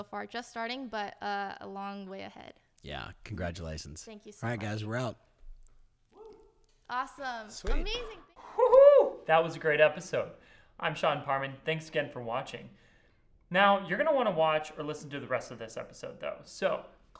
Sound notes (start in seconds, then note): 6.1 whooping